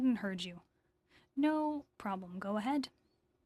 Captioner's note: speaking in French